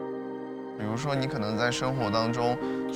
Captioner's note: speaking Chinese dialect